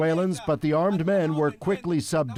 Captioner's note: speaking foreign language